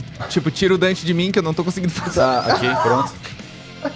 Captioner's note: laughs